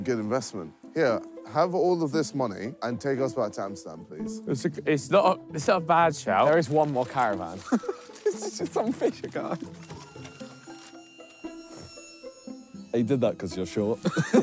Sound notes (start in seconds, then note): 7.6 laughing